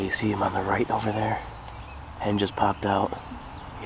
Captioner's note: none